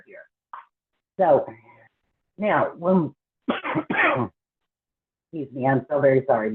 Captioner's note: coughs